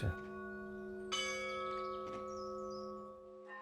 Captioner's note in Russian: звучит колокольный звон